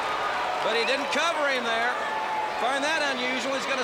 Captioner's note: crowd chatter